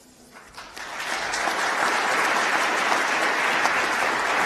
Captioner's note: applause